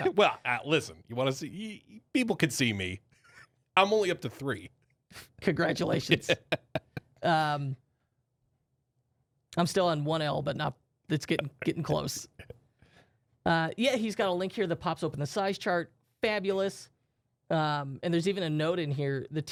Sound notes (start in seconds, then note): 5.9 chuckling